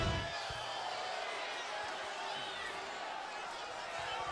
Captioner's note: crowd murmuring